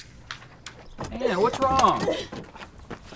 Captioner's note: Anne crying